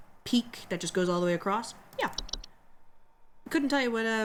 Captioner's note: none